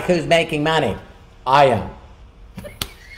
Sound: laughing

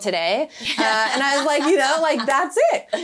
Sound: laughing

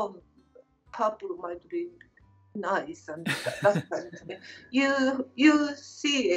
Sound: laughter

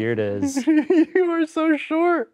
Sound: laughs

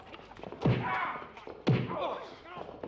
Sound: glass breaks; thud

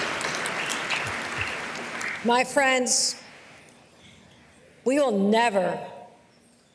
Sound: applause

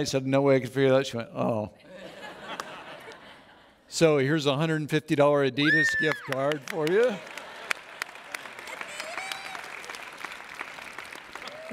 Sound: cheering

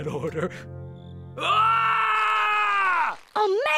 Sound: screaming

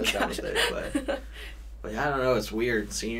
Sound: laughs

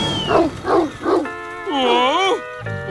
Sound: barking

